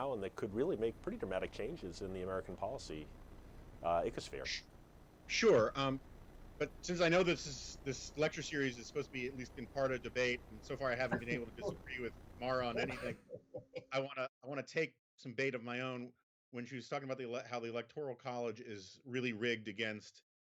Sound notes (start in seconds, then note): 12.7 Mara laughs